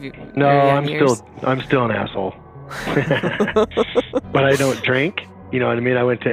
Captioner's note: both laugh